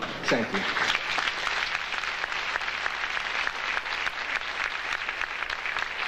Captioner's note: audience applauding